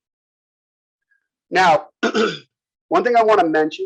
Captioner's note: cough